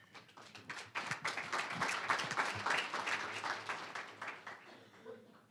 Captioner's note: applause